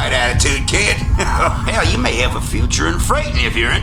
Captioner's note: laughs